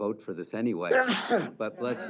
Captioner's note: sneeze